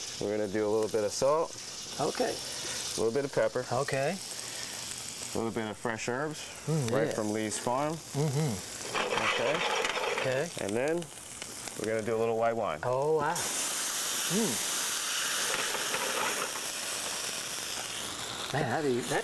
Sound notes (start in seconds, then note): 14.9 wine sizzles